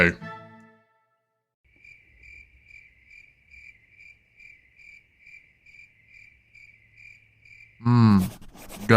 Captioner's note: silence